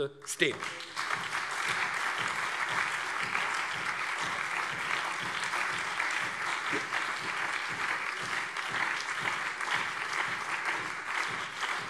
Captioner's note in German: Beifall CDU, SPD und BÜNDNIS 90/DIE GRÜNEN